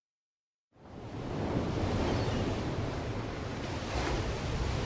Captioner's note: ocean waves crashing on beach